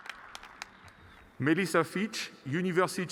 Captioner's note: applause